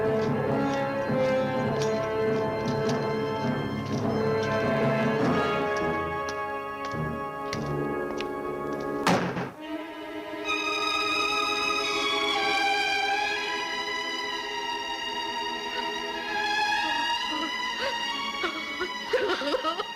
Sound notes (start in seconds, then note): 8.5 banging; 10.1 foreboding music; 16.6 crying